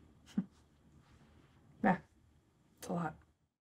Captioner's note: laughs